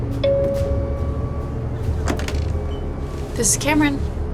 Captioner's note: phone ringing